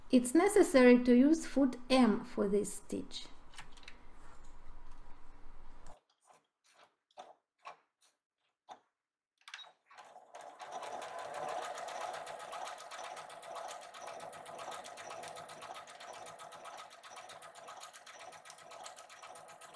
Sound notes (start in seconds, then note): 11.1 sewing machine humming